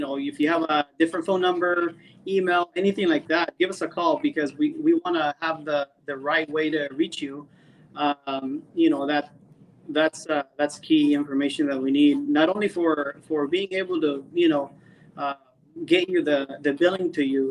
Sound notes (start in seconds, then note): none